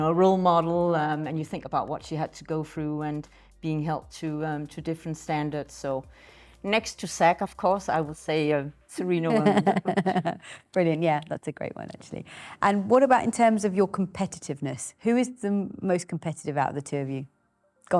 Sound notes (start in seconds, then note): 9.3 laughing